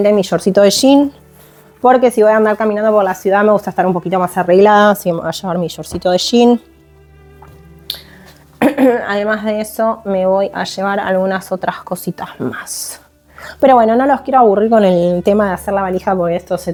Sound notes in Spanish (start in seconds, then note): 8.6 carraspeo